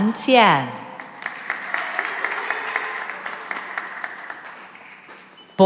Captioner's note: cheering and applause